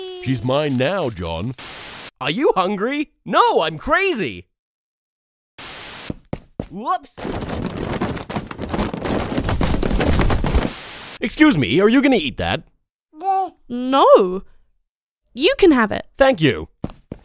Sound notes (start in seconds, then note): 7.2 falling sounds; 13.0 stupid baby sound